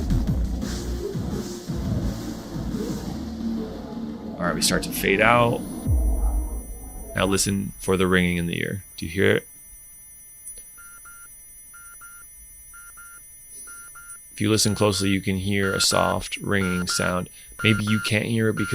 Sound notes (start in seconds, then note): 6.1 ears ringing; 11.0 alarm beeping